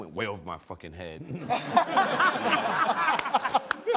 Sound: all laughing

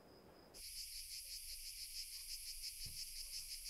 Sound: cicadas buzzing

